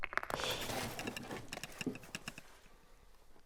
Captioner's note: rubble falling